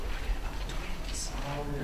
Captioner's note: whispers